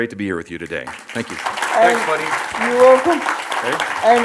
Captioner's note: audience applauds